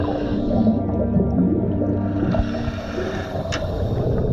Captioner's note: water bubbling